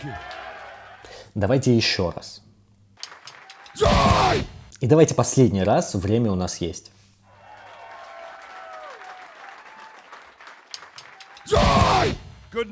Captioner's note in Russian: крик; ликование; аплодисменты; крик; ликование